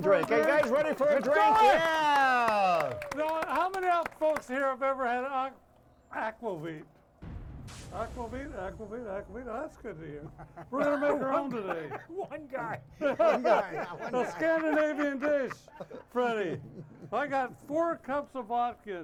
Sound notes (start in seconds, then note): 2.2 audience applauding and cheering; 9.7 laughs; 11.3 laughs; 13.2 hosts laughing